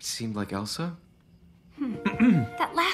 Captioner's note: clears throat